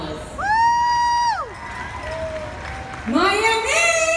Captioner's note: crowd cheers